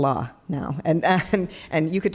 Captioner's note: laughing